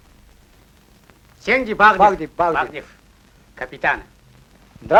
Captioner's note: speaking Udege